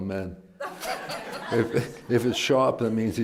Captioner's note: laughter